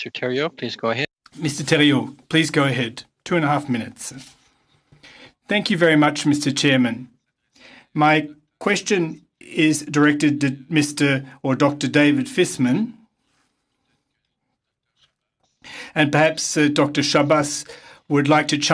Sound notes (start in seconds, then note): 10.0 speaking French